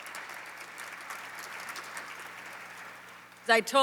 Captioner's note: applause